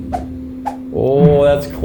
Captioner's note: golf club whip cracks